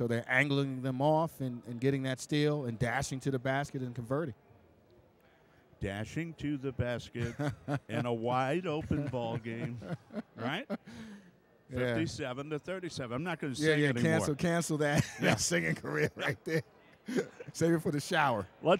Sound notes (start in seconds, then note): 14.9 laughs